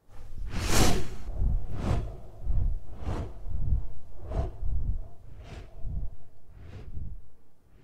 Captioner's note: wing noises fade out